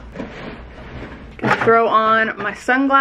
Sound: bag rustling

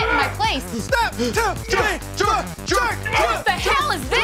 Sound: grunting

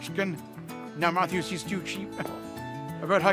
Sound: chuckling

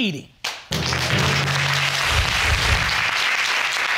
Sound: audience clapping

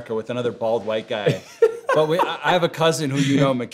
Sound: laughs

